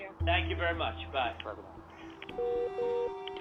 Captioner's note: call ends